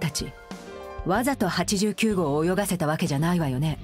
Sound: none

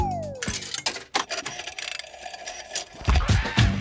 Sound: clicks, whirring; hip hop music plays

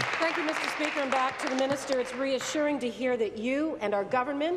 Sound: applause

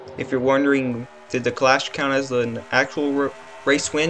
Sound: stutters

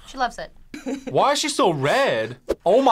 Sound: laughs

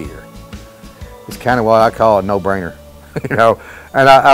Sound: chuckles

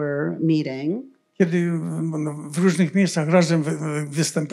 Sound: foreign language

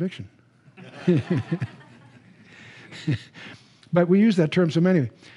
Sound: laughter

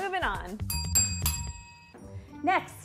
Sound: bells ring

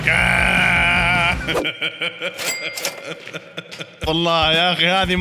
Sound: laughter

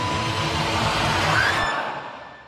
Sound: screams

